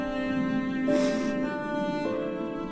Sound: sniffles

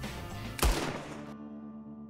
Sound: gunshot

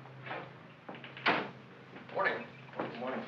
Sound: door closes

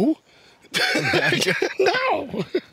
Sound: laughs

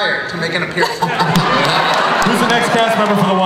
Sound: everybody laughs

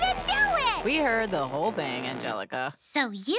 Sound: none

